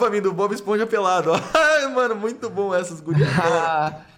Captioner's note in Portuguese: Risadas